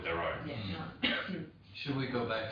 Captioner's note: coughs